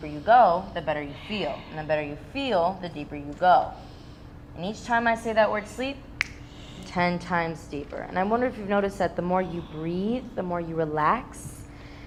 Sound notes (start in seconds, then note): 6.2 fingers snapping